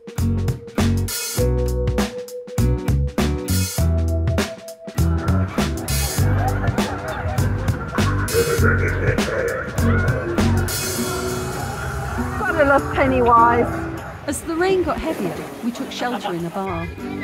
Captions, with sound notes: [chill music] [evil laugh] You've gotta love Pennywise. As the rain got heavier, we took shelter in the bar.